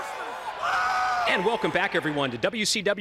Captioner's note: crowd chatter